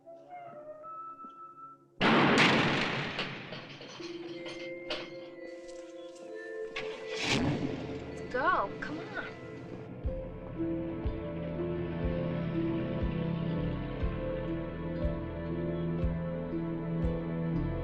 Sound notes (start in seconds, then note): 2.0 door slamming; 7.4 car revving; 10.5 suspenseful music